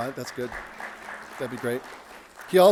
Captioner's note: audience applauding